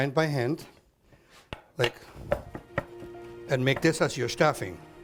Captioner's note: chopping